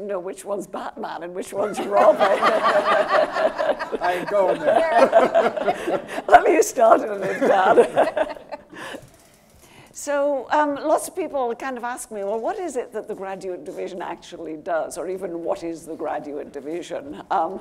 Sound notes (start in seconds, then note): 1.6 panel and audience laughing